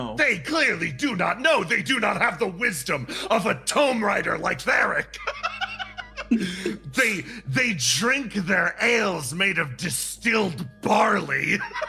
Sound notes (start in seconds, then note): 5.2 laugh